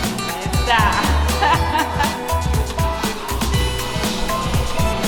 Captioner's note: laughing